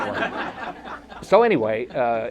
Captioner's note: audience laughter